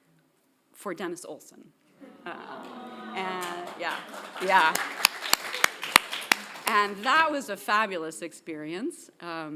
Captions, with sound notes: for Dennis Olson. Yeah. (clapping) (audience clapping) And that was a fabulous experience,